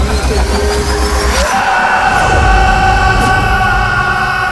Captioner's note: screams